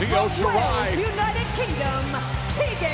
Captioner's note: crowd cheering